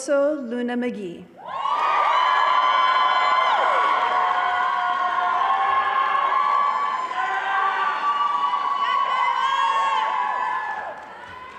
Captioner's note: cheering and applause